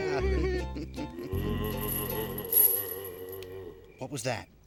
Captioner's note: ghostly moaning